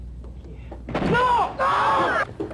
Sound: gunshot

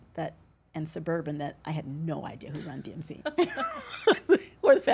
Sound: laughs

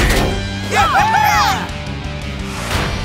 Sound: cheering

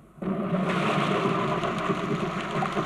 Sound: thunder crashing

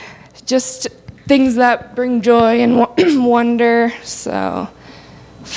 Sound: clears throat

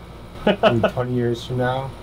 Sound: laughs

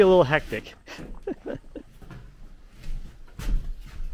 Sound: laughs

